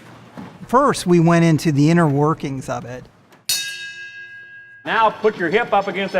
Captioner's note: bell rings